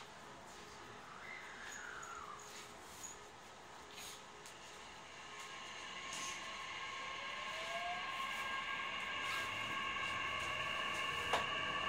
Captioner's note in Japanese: 加速音